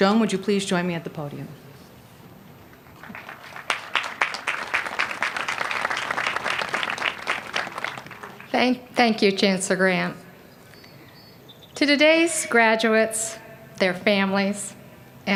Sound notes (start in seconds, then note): 3.0 applause